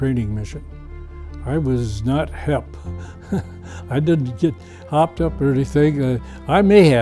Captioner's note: laughs